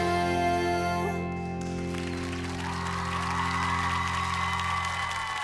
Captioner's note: cheers and applause